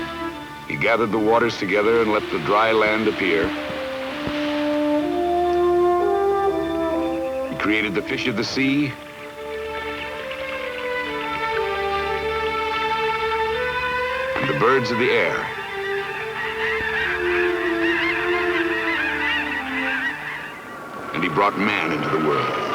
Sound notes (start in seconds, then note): 0.0 waves crashing; 9.0 water splashing; 15.7 seagulls squawking